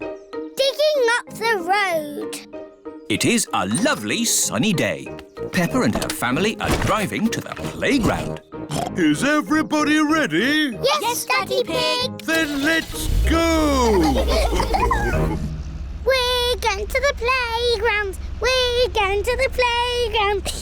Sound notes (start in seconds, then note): 8.6 oinks; 13.1 starts car